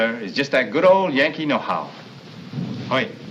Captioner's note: explosions in distance